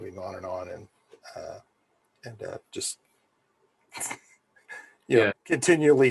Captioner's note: laughs